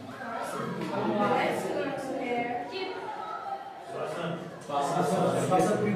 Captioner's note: speaks softly